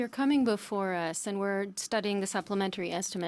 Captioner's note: speaking French